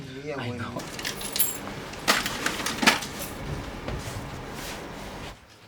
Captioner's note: sound of coins